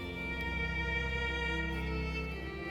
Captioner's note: dramatic music playing; silent crying; dramatic music playing